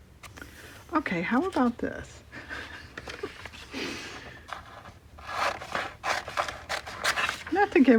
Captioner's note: laughs